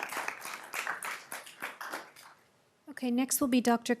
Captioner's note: applause